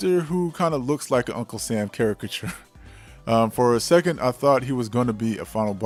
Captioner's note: chuckles